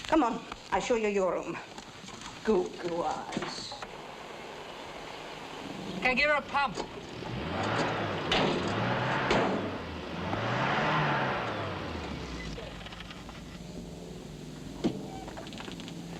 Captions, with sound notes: Come on, I show you your room. Goo-goo eyes. - 'Kay, give her a pump. (engine revs) (engine stalls)